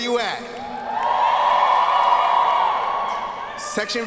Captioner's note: students cheering